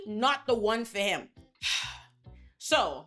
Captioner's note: sighs